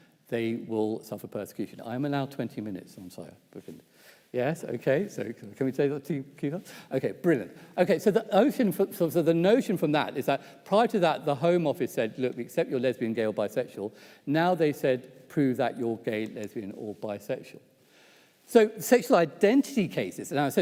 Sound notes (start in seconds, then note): 5.9 faintly speaking